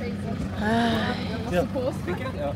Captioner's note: sigh